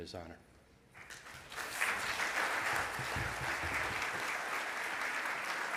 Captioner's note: audience applause